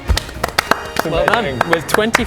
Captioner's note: heroic applause